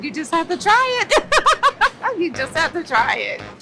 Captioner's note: laughs